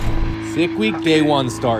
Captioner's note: engine revving